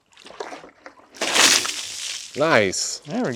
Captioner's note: water splashing